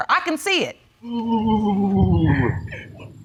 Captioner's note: cooing